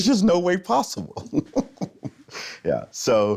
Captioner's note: laughs